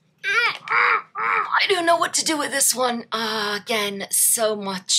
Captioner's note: grunts in pain